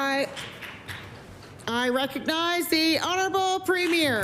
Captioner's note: some Applause